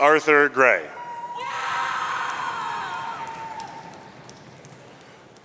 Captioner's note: audience cheering